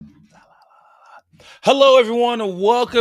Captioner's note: whispering